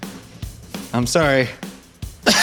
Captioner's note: cough